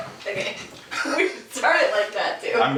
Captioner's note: laughing